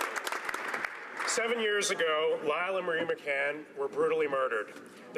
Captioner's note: some Applause